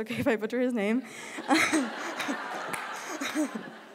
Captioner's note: laughter